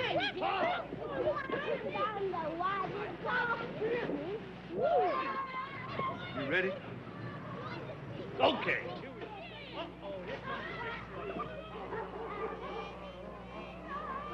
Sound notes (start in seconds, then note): 0.0 distant sounds of baseball crowd cheering; 4.7 children shouting indistinctly; 10.3 children shouting indistinctly; 11.7 dog barking